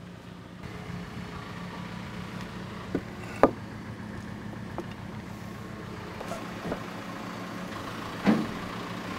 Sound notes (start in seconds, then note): 1.2 engine running